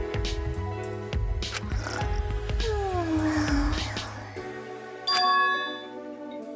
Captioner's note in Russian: храпит